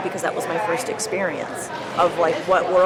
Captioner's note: none